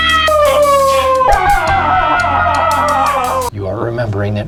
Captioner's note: screams All-Around